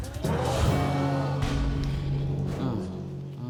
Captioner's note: crowd exclaiming